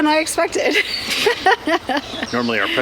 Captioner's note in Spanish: risas